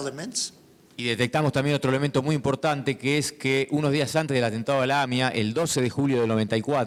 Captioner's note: speaking in foreign language